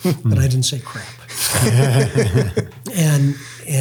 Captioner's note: laughs